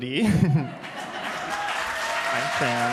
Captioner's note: applause